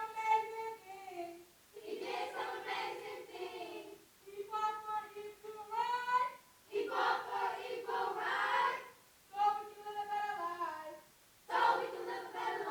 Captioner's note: away from Microphone